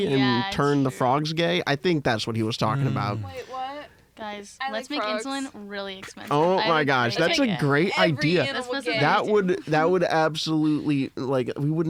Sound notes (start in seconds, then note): 6.0 laughs; 9.8 laughs